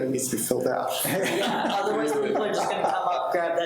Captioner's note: people laughing